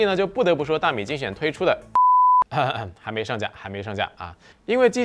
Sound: beep

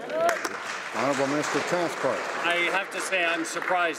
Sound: some Applause

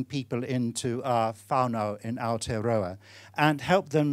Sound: speaking foreign language

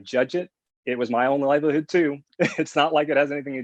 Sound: laughs

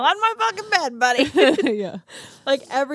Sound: laughs

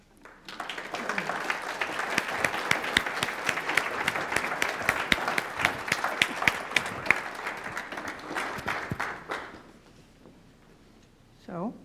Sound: applause

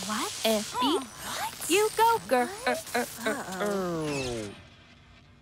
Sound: gasping in confusion; Dreamcloset stutters, powers down

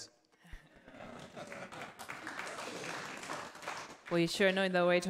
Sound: audience laughter and applause

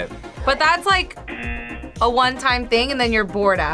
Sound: buzzer rings

